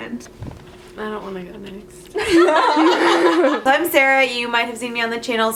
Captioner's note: laughter